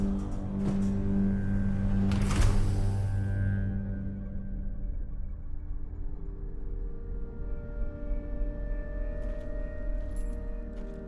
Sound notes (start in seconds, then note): 2.3 door hisses; 6.8 tense pensive music